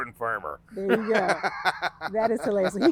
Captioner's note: laughing